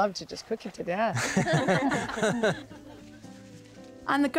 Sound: laughter

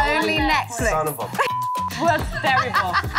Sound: beep

